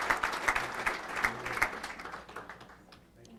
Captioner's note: applause